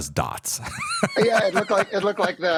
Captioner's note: laughs